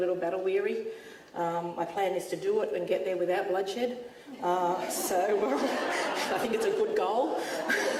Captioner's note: audience laughs